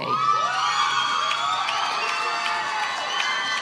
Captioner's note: cheers